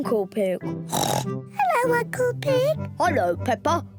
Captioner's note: in deep voice; oinks